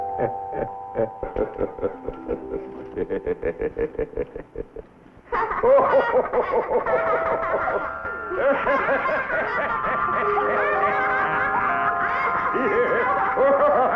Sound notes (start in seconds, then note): 2.9 laughing